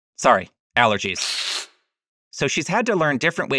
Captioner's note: cat hisses